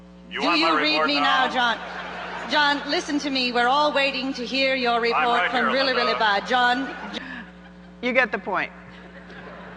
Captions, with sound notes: - [Voiceover] You want my report now? - [Voiceover] John, listen to me. We're all waiting to hear your report from Rillirillibad, John. - You get the point.